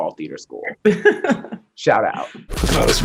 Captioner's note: laughing